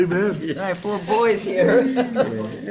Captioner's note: laughs